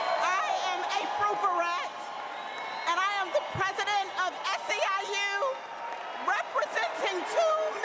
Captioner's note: applause